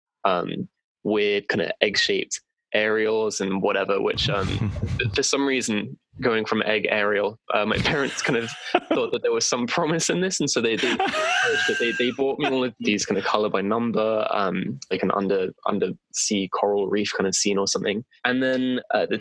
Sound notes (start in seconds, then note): 2.8 laughter; 9.6 laughter